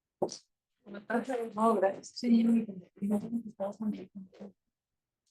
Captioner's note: attendees chattering